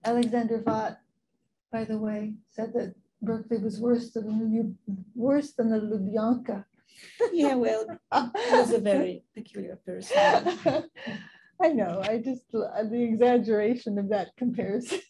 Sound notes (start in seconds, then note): 7.1 laughing; 7.6 woman's Voice